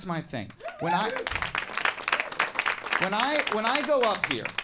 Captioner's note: audience applauding